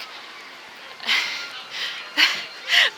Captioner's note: laughs